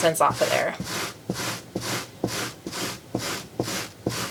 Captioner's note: tool scraping